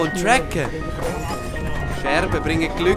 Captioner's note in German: zersplitterndes Glas